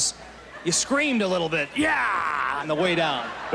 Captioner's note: roaring